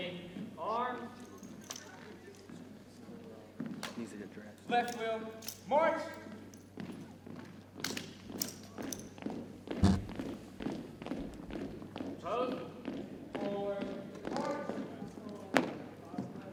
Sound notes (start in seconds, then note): 7.2 boots thumping